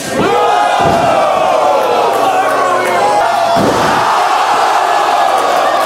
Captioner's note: cheering